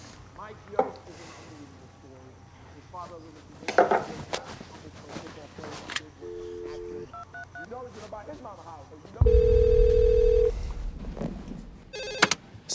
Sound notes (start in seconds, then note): 6.7 phone dialing; 9.2 phone ringing; 9.3 dramatic music